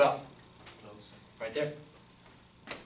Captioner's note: voiceover